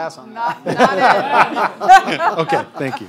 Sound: audience laughter

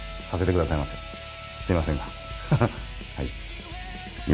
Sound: laughs

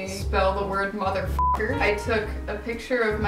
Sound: beep

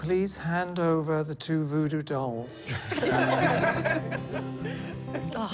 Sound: all laughing

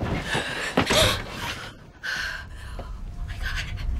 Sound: Grace gasping

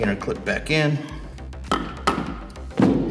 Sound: metal taps

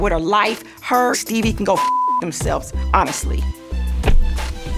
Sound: beep

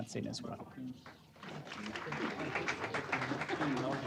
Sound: applause

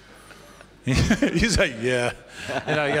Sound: laughs

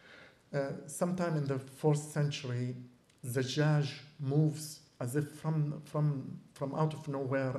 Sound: non-english

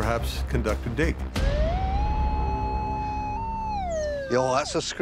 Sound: beeping

